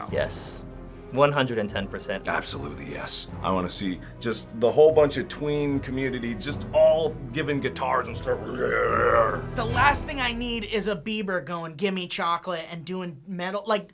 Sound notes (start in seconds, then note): 8.4 growls